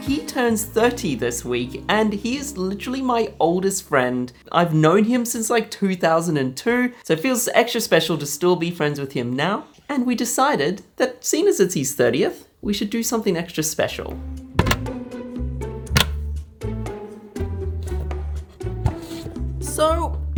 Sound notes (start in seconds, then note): 14.6 cabinet door opening; 15.7 dramatic music